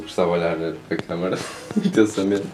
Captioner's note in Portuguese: giggles